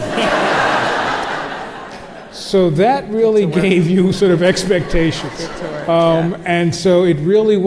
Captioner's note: crowd laughs